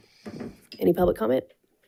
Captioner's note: gavel bangs